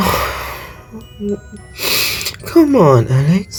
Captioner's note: sniffles before chastising himself